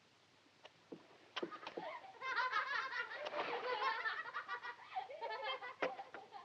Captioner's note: flora, miles laughing